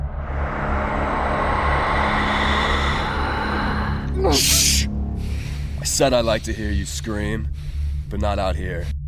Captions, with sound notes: (Eerie whooshing) Mmm! Shhh! I said I like to hear you scream. But not out here.